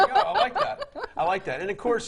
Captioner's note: laughing